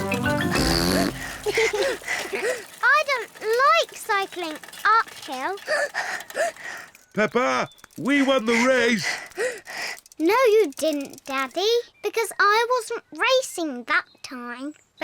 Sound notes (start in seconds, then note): 0.1 blows raspberry and giggles; 6.0 panting